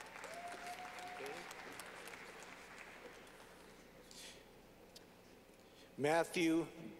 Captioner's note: clapping